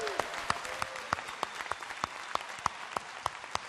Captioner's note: applause